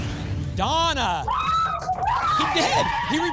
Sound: cheering

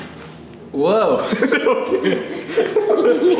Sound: laughing

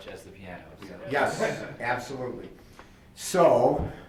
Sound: laughs

